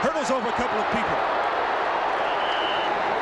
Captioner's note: cheering